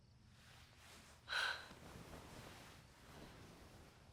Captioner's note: sighs